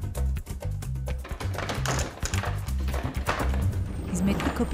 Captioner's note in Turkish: Müzik - Hareketli; Kapı kapanma sesi; Anahtar sesi